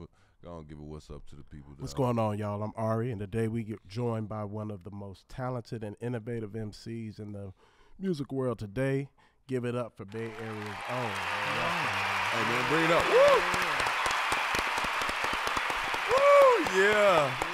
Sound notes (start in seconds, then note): 9.8 audience cheers; 13.5 panel claps